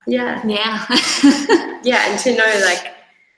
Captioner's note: laughs